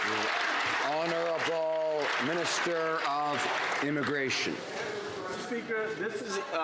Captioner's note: some Applause